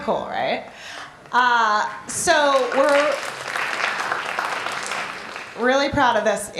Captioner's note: applause